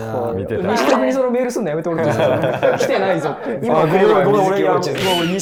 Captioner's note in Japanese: 一同・スタッフ：笑い